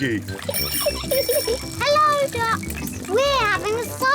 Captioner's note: giggles